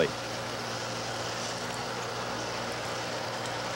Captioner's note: engine running